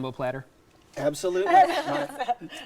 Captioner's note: laughing